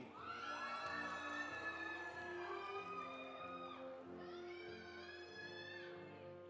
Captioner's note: audience applauding; audience cheering